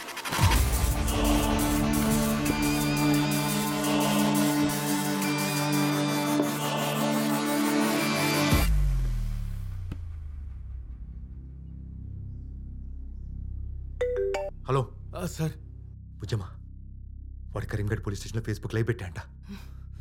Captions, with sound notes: (Phone rings) Hello... - Sir... Bujjamma... He started a live Facebook session at Karim's station.